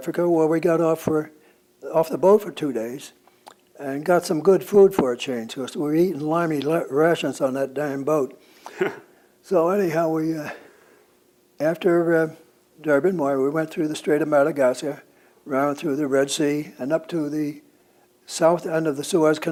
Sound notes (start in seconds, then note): 8.6 laughs